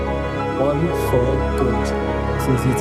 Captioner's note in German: in einer Fremdsprache